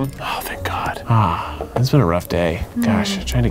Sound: sighs

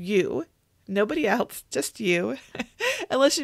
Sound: laughs

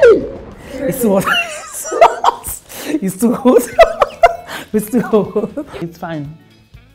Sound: laughs

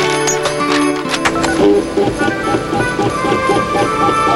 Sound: beeping

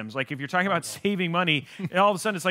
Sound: laughs

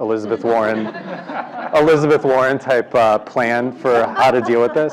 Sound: laugh

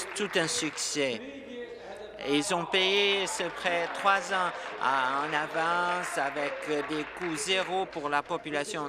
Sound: applause

